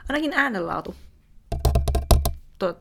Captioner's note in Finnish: mikrofonin naputtelua